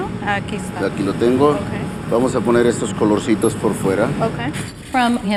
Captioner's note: speaking spanish